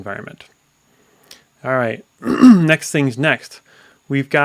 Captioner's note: coughs